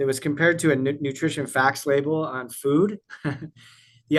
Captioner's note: laughs